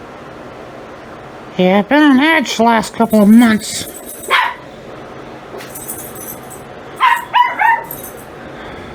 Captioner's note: Ella barking off-screen